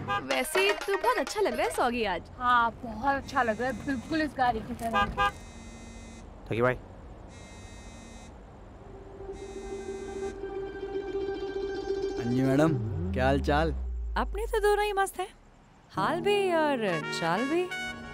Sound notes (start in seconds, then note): 5.4 phone vibrating; 7.7 phone vibrating